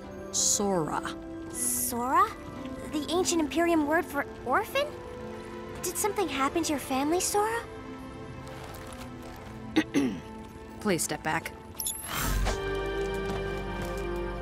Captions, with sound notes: "Sora." "Sora"? The ancient Imperium word for "orphan"? Did something happen to your family, Sora? [Dr. LaRow clears throat] Please step back. [whirs]